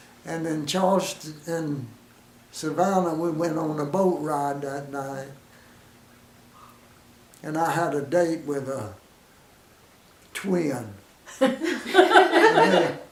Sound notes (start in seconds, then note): 5.5 silence; 11.3 women chuckle